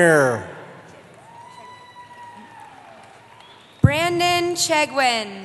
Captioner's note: cheering